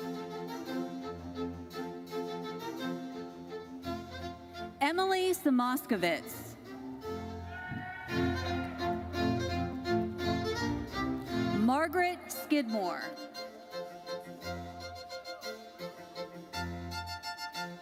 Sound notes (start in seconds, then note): 0.0 bright lively music continues; 7.5 audience cheering; 10.3 bright lively music continues; 13.8 bright lively music continues